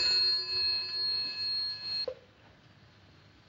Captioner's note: ringing Continues; ringing Stops